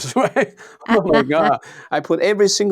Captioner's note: laughs